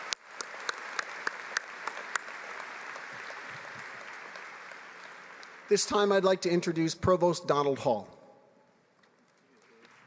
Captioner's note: applause